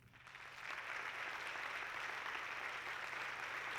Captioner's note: audience clapping